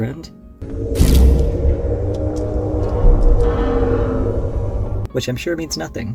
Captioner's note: groaning noise